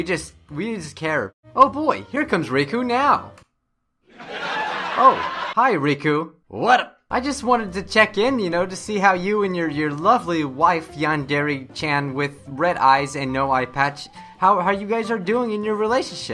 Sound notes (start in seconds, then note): 4.2 laugh